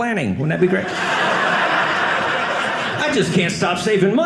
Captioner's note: audience laughing